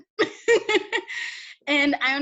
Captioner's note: laughs